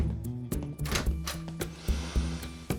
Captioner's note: door opens; sniffing